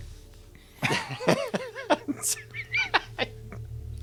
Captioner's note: laughs